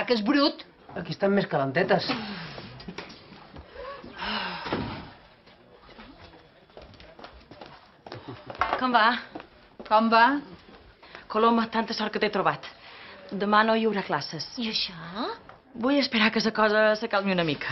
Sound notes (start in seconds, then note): 2.3 laughs; 3.6 sighs